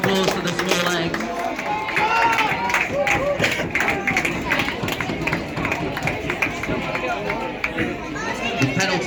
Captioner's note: clapping